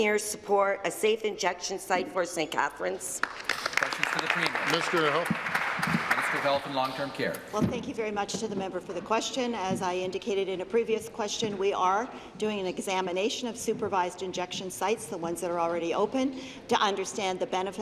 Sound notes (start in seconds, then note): 6.4 applause